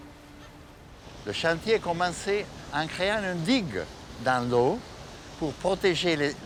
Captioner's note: speaking in foreign language